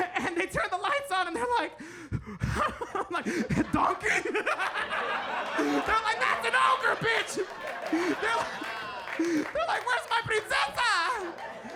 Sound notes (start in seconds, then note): 4.6 audience laughs; 7.5 audience laughing